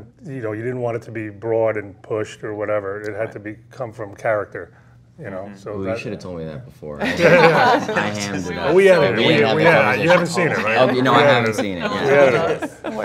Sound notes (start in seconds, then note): 7.0 laughing